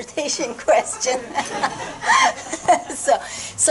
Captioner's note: laughter